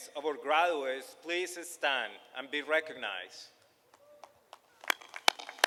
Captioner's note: applause